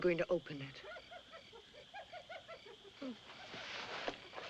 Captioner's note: hyena Chattering